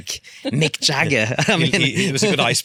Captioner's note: laughs